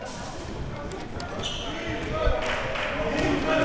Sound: crowd cheering

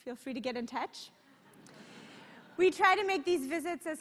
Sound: laughter

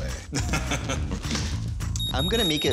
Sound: laughs

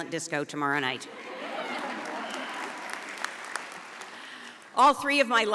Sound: audience applauds

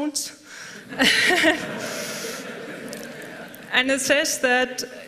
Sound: laughter

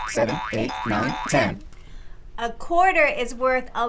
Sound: boing sound

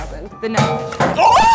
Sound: bangs

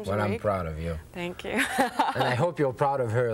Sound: laughing

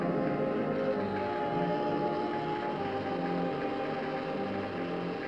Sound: buzzing

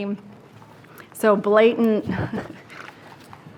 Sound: chuckles

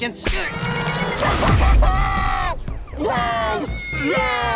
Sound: laughing

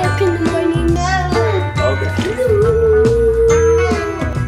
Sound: people chatting; upbeat holiday music

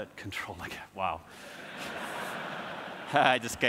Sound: audience laughs

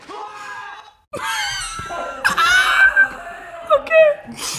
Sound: best laugh EVER

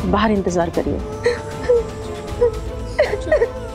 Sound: sobbing

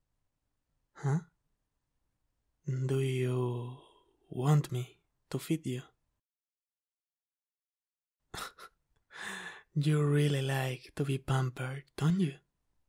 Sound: laugh

